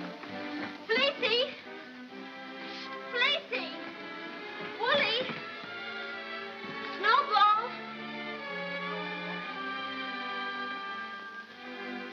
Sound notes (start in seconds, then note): none